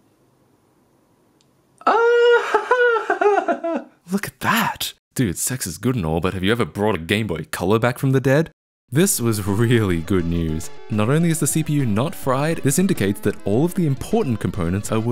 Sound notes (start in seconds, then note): 1.9 shocked laughter